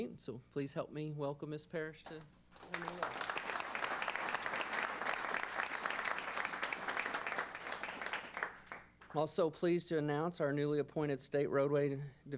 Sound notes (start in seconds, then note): 2.6 applause